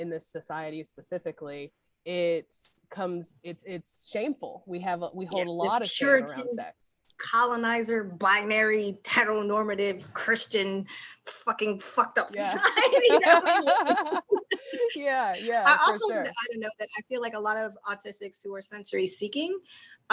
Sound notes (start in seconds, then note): 12.4 laughter